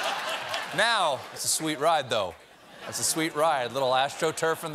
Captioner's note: laughter